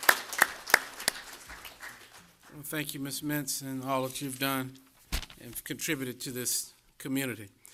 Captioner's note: applause